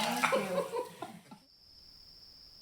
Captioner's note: giggling